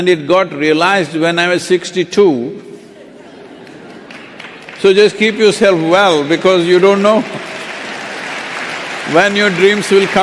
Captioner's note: laughter